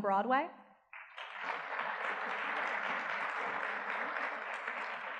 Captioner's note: audience clapping